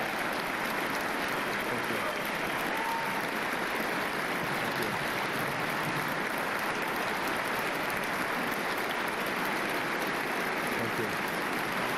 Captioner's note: applause